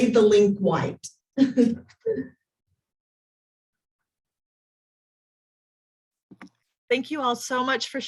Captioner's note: laughs